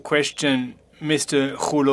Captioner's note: speaking FRENCH